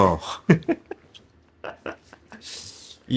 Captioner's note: laugh